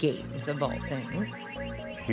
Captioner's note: video game playing